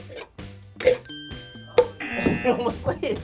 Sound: bell rings; buzzer; laughs

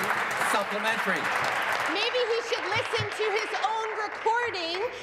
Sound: applause

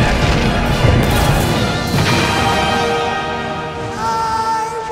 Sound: big fuckin' explosion

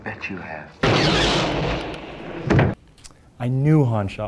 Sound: blaster fire

